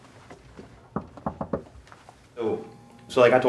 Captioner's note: knock at door